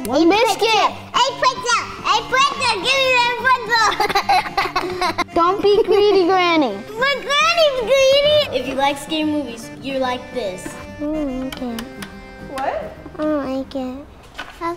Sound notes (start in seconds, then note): 3.5 laughs